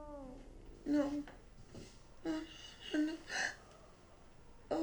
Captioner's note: Jane sobbing